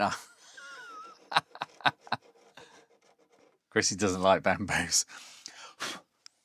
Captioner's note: laughs